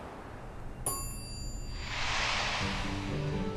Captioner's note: bell chimes